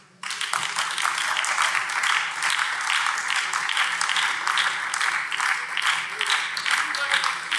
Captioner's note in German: Beifall BÜNDNIS 90/DIE GRÜNEN